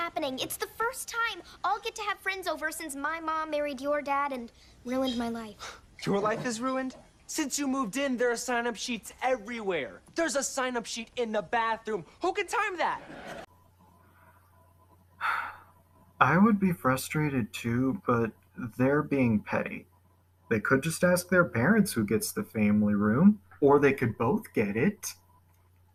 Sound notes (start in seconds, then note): 5.6 scoffs; 12.0 sigh